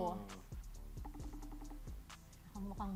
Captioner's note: line ringing